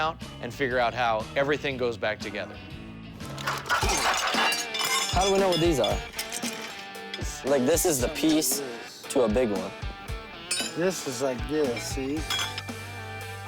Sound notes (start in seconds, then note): 3.2 pieces clanging